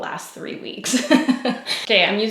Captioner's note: laughs